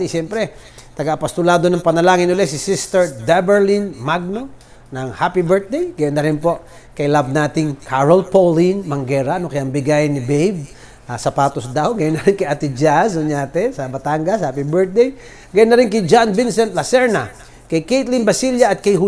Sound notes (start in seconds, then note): 12.0 chuckles